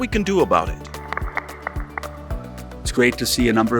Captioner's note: audience clapping